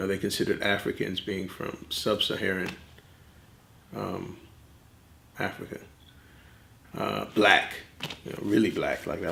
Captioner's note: none